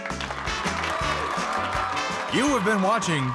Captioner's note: game show music plays; audience cheers